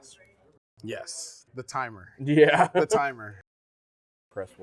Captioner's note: laughs